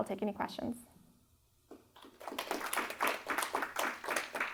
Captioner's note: applause